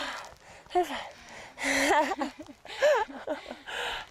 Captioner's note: laughs